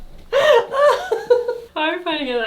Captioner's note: laughing